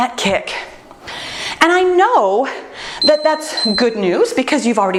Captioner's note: timer beeps